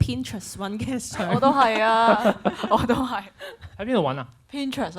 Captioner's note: laughs